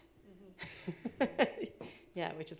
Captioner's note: laughing